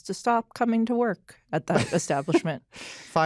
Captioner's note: laughs